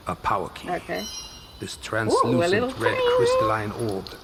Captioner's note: makes bell noise